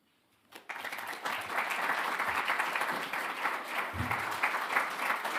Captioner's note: audience applauding